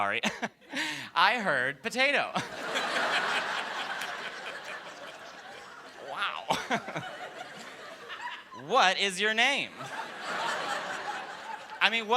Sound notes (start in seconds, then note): 0.0 laughter; 6.2 laughter